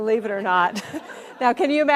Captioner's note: audience laughs